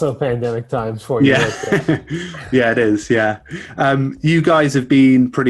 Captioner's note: chuckles